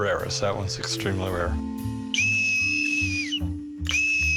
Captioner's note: shrill whistle